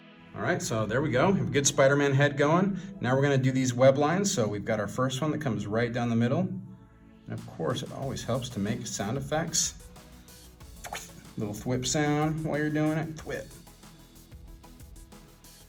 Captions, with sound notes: All right, so there we go-- good Spider-Man head gone. Now, we're going to do these web lines. So we've got our first one that comes right down the middle. And of course, it always helps to make sound effects. [THWIP] Little "thwip" sound while you're doing it. Thwip.